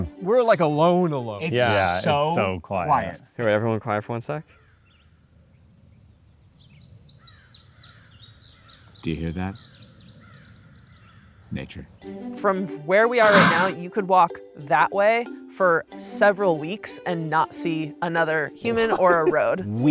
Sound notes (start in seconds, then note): 6.6 birds tweeting; 11.7 upbeat orchestral music